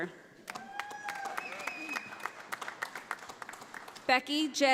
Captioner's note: audience applauding